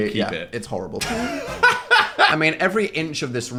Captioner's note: laugh